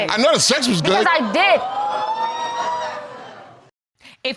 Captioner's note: audience exclaiming